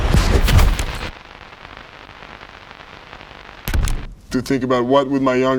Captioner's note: static crackling